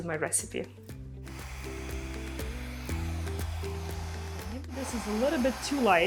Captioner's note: upbeat music continues; blow-dryer whirring